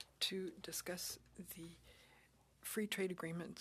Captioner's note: speaking French